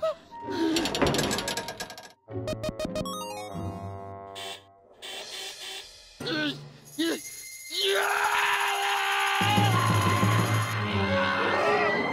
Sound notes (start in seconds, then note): 0.4 gasps; 2.4 beeping; 7.1 grumbling; 7.7 screams